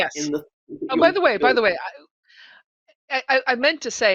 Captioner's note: voice muffling